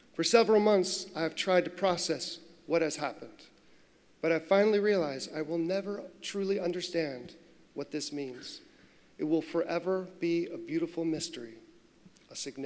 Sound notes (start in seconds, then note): none